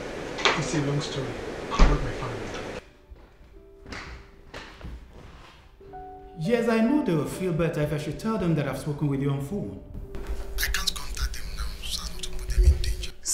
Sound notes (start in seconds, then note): none